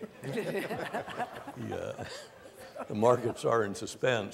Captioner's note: panel laughs